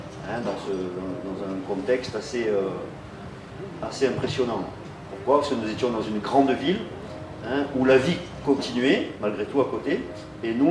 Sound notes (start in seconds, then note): none